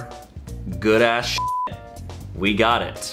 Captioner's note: beep